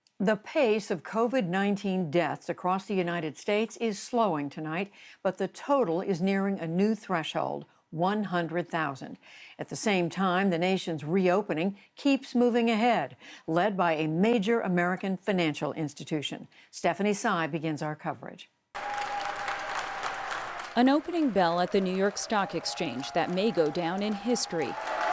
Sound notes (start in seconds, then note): 18.7 cheering and applause; 24.8 bell ringing